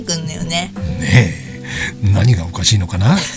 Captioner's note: laughs